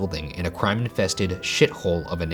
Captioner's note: police sirens